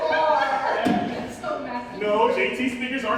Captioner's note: all laughing